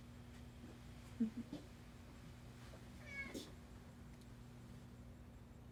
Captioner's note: laughs softly